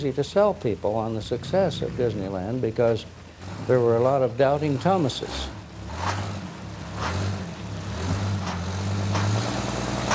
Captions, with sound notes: to sell people on the success of Disneyland because there were a lot of doubting Thomases. (engine rumbling)